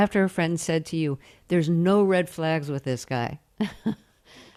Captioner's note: laughter